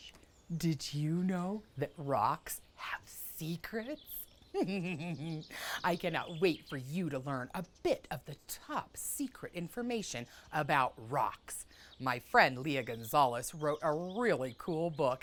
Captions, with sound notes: Did you know that rocks have secrets? (Giggles). I cannot wait for you to learn a bit of the top secret information about rocks. My friend, Leah Gonzalez, wrote a really cool book.